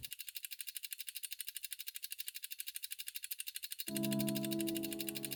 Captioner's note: clock ticking; emotional music